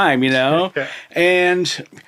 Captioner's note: chuckling